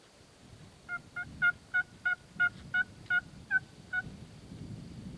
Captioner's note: turkey call